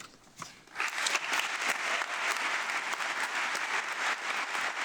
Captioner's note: audience clapping